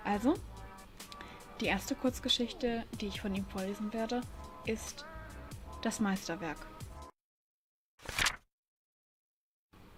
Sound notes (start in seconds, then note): 8.0 page flip